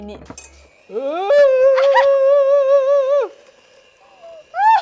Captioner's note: poor rendition of howling